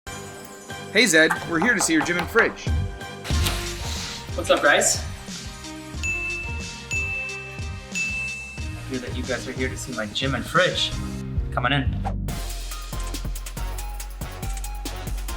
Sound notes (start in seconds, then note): 6.0 bell tone; 12.0 quirky music